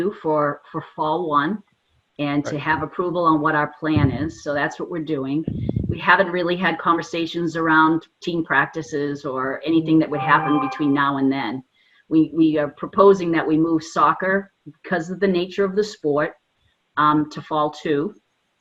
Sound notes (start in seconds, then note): 10.1 phone notification rings